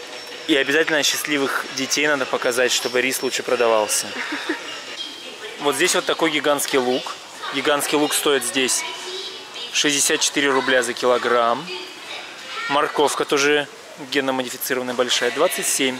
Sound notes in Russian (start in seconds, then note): 4.1 смеётся